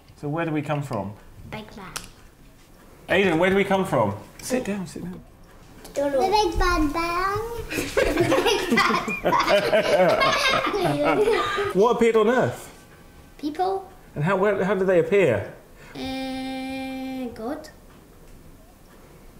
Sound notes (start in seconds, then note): 7.6 laughs